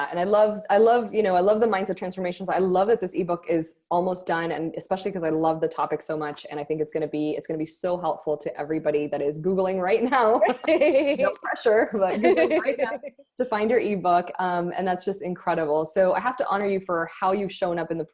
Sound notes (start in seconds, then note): 11.8 laughing